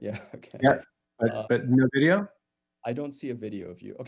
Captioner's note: chuckles